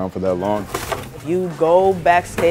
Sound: sound of tearing cardboard

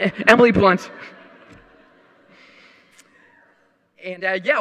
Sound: audience laughing

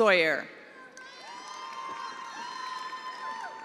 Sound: attendees applauding

